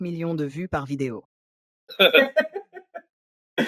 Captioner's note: both laughing